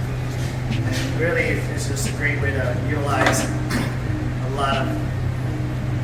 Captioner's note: clears throat